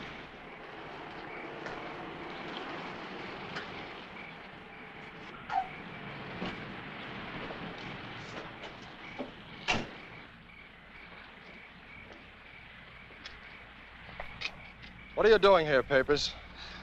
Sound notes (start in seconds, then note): 1.8 insects chirping; 9.6 car door thuds